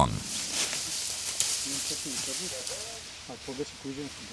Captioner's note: shuffling